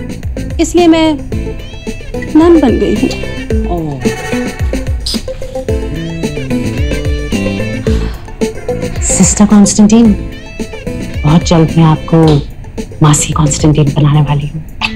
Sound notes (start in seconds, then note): 5.0 Kisses; 7.2 Ana sighs